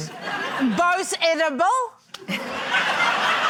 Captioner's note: laughter